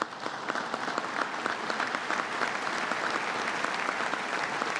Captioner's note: applause